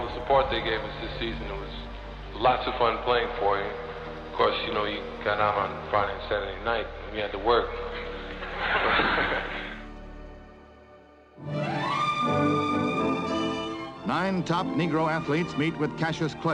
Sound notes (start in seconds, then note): 8.6 laughter; 11.4 upbeat orchestral music